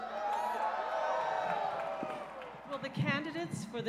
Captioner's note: cheers and applause